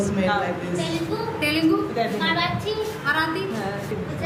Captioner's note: non-english speech